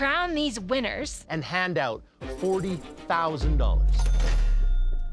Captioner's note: bell dinging